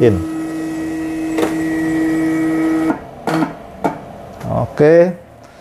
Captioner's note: printer machine noise